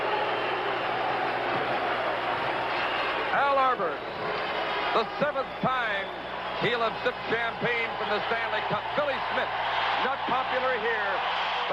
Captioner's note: cheering and applause